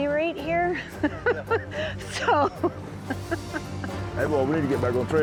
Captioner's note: laughter